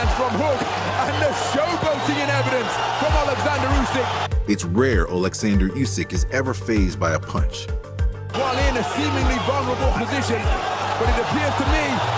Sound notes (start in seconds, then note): 8.3 crowd shouting